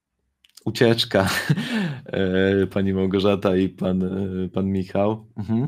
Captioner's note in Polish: śmiech